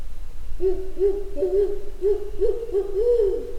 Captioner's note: owl howling